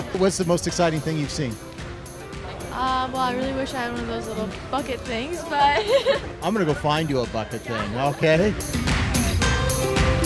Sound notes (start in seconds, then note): 5.5 laughs